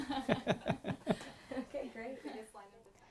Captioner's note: laughter